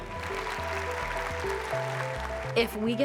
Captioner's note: audience applauding